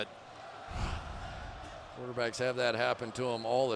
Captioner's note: swoosh